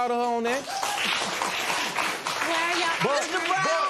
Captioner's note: applause